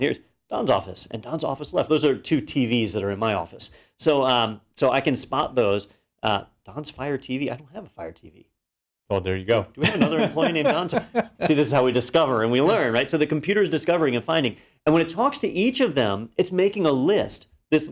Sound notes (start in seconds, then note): 9.8 laugh